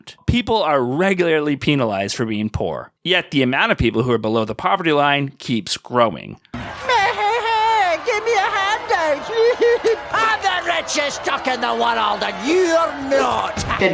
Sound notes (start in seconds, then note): 6.6 fake cry noise